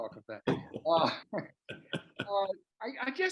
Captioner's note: both chuckle